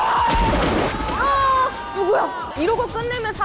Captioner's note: the splash of water echoes loudly